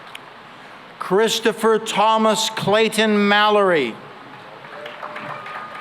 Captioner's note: cheering and applause